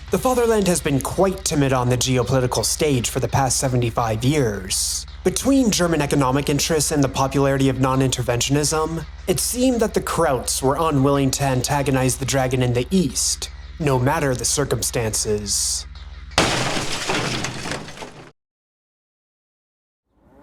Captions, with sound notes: The Fatherland has been quite timid on the geopolitical stage for the past 75 years. Between German economic interests and the popularity of non-interventionism, it seemed that the Krauts were unwilling to antagonize the dragon in the east, no matter the circumstances. [Crashing Sound]